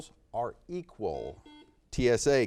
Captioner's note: buzzer beeps